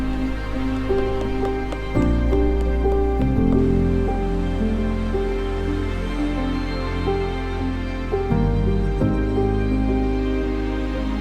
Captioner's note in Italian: Applauso